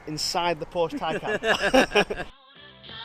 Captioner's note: laughing